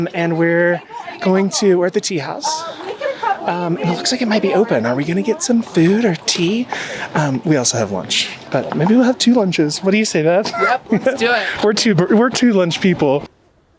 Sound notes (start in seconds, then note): 10.4 chuckles